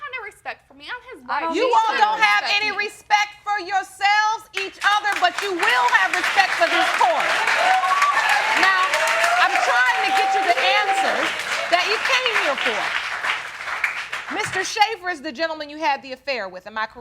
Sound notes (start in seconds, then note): 7.3 audience cheering